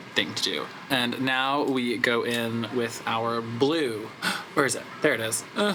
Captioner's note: gasps